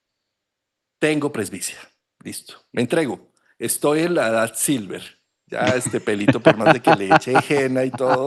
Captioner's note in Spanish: risas